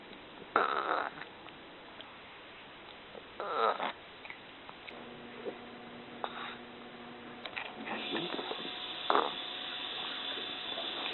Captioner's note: burps